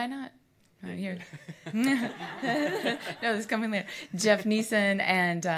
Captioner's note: audience laughs